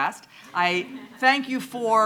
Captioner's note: audience laughing